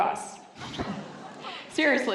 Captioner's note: laughter